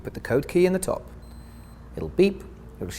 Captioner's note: beep